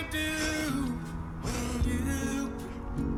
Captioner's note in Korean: 후룹; 후루룹